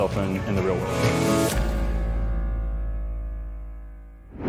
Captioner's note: swooshing